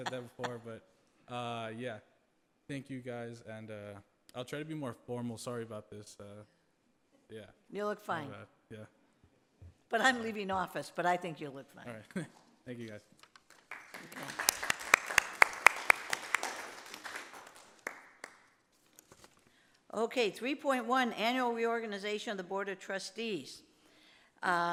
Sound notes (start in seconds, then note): 12.9 laughs; 13.2 group applauds